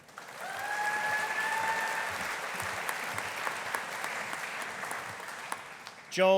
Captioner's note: audience applauding; audience cheering